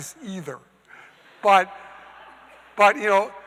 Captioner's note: audience laughing